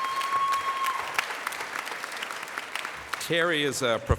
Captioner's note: applause